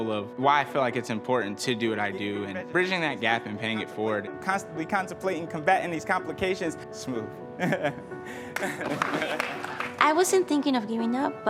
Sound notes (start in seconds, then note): 8.3 laughs; 8.5 clapping